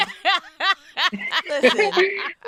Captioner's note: laughing